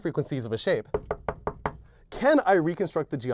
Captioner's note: knocking